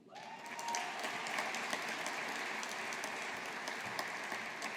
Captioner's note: audience applauding